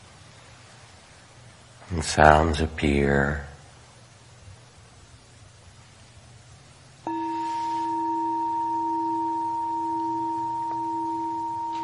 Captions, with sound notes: Sounds appear (bell chiming)